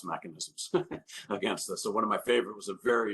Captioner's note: chuckles